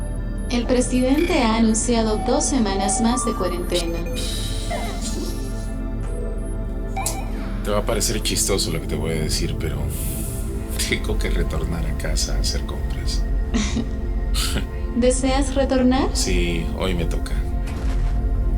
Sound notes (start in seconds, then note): 3.7 mouth noise; 14.3 chuckles